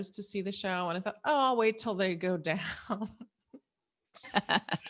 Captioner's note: laughs